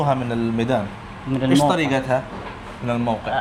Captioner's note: Arabic